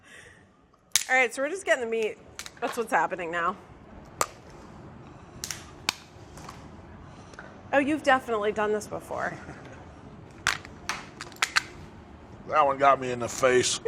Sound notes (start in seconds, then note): 4.1 cracks; 10.5 cracks